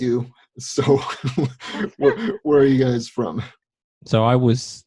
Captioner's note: laughs